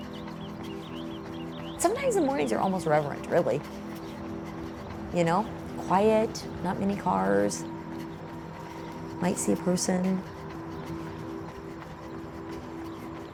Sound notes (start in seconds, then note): 1.2 birds chirping